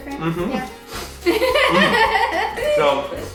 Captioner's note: laughing